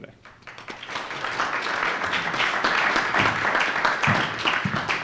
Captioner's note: audience applauding